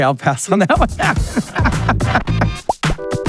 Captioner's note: laughing